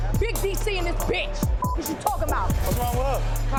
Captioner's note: beeps